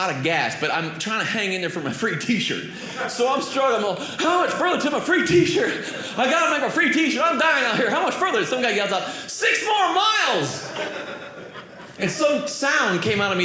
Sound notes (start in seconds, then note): 10.4 audience laughing